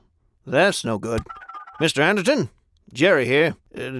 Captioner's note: phone dialing